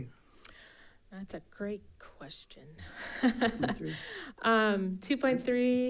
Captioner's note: chuckles